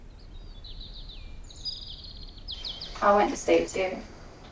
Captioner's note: birds chirping